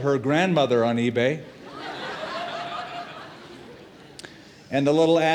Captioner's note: laughter